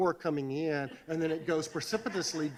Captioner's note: audience laughs